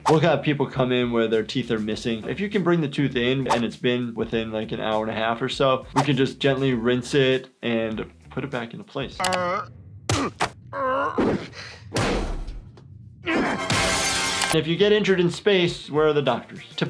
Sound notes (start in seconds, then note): 10.7 Peter groans; 13.6 glass breaking